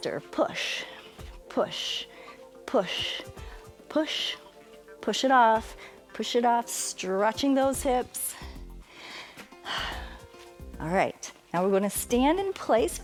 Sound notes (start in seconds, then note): 8.4 inhales and exhales